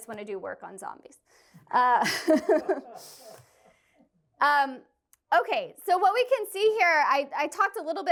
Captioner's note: laughter